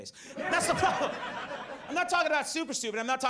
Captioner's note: audience laughs